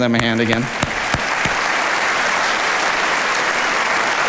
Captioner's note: audience applauding